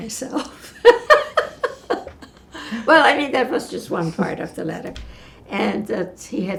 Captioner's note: laughing